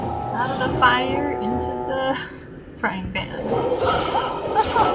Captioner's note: laughs